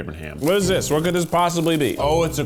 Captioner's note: rustling